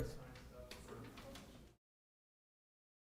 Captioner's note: chatter